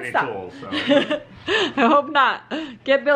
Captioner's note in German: lacht